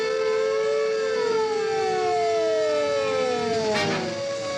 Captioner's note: siren approaching